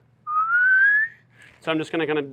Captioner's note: whistling